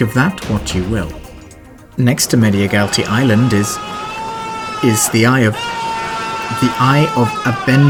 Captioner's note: incoherent screaming